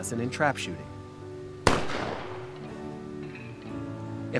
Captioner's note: rifle banging